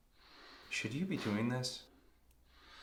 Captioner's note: coughs